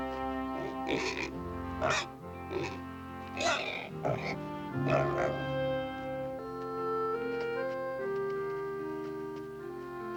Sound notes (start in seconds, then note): 0.7 grunting, squealing